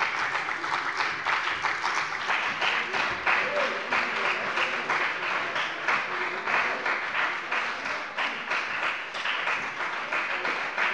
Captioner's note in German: Beifall bei dem BÜNDNIS 90/DIE GRÜNEN und der CDU sowie bei Abgeordneten der SPD